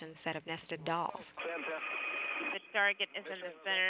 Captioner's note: russian transmission